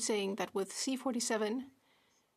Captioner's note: speaking French